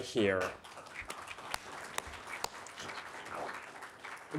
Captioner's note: audience clapping